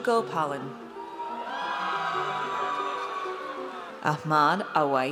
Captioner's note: audience cheers